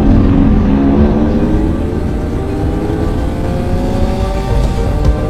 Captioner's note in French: Vrombissement des moteurs